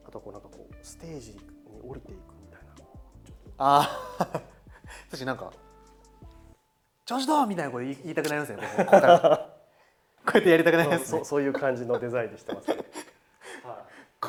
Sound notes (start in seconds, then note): 10.3 laughs